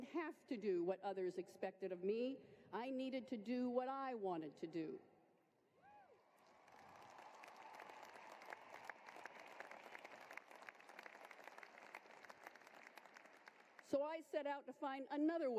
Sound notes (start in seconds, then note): 12.7 applause